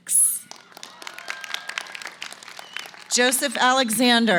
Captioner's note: applause